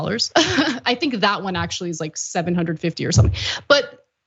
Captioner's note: laugh